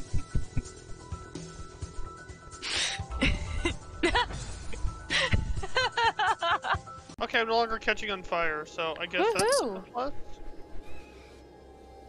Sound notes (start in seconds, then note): 5.6 laughs in shame/karma